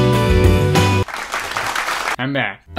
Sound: upbeat music; applause

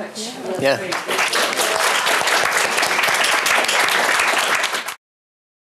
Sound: applause

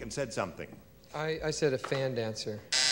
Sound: buzzer

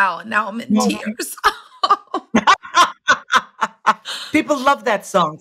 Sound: laughing

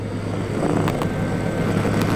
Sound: growling

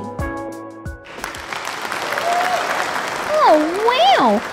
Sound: applause

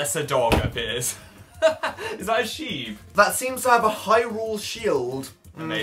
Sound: laughs

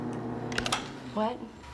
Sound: switch clicks

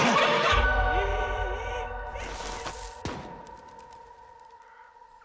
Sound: dark dramatic music; woman shrieking; woman gasping

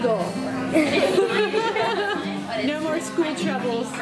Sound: laughs

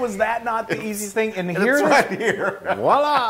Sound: laugh

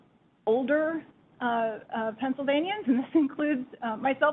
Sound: chuckles

